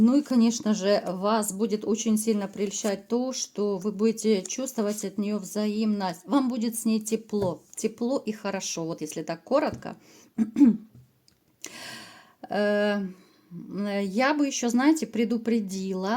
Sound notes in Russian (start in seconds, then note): 10.4 откашливается